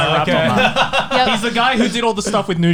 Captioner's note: laughs